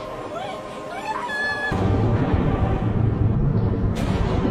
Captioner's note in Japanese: 悲鳴